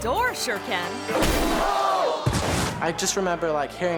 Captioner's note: thuds